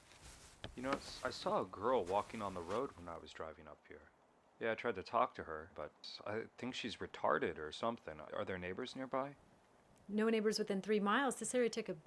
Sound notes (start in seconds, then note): none